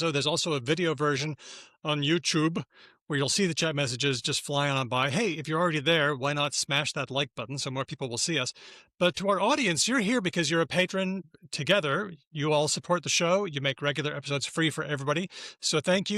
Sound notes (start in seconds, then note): none